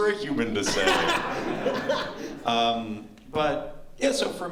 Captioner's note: laughter